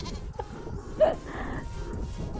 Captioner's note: laughs